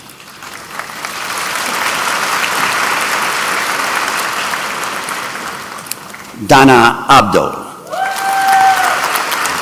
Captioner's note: applause